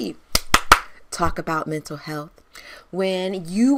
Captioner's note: hands clapping